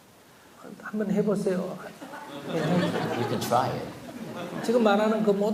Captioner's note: audience Laughter